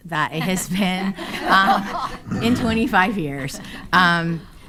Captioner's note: attendees laughing